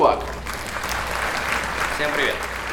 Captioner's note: applause